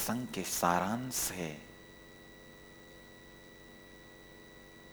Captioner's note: hindi